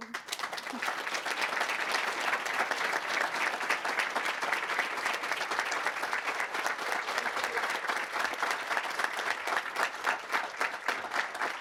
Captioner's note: applause